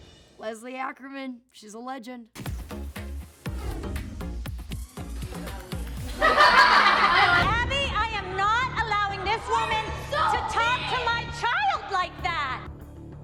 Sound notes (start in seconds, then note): 2.4 dynamic music; 6.0 laughter